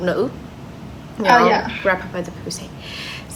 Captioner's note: whisper